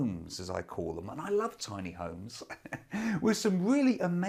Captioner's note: laughs